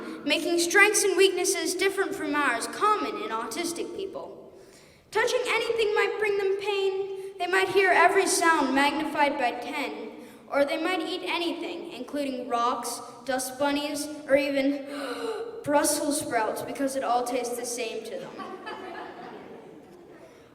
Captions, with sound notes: making strengths and weaknesses different from ours common in autistic people. Touching anything might bring them pain; they might hear every sound magnified by ten, or they might eat anything, including rocks, dust bunnies, or even – (gasps in surprise) brussel sprouts, because it all tastes the same to them. (Laughter)